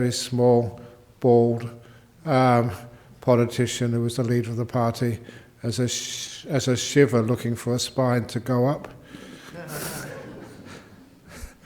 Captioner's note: laughter